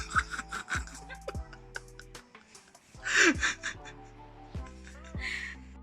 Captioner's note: laughing